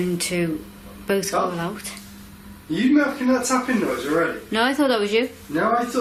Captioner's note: none